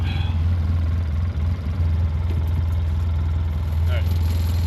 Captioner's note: egine purring